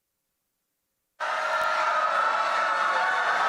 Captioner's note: applause